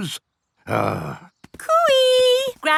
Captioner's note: grumbles